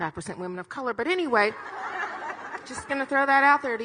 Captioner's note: audience laughing